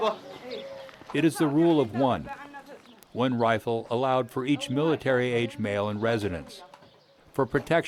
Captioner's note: voiceover